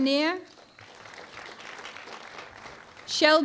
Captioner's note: applause